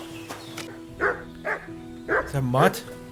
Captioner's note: dog barking